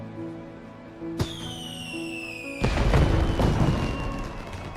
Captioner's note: Fireworks explode, while music from Hibike! Euphonium continues to play